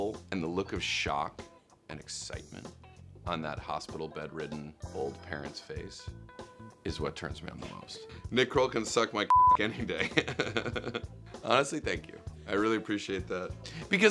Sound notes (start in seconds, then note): 9.3 beep; 10.0 laughs